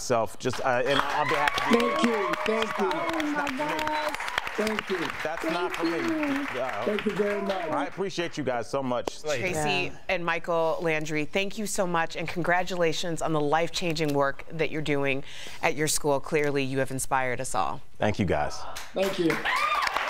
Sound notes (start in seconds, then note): 8.6 cheering